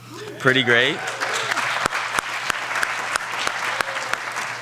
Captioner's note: audience clapping